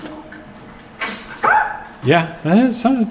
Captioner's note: item clicking; screaming